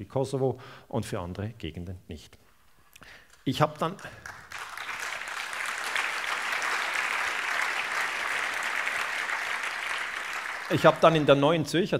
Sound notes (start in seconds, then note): 3.7 applause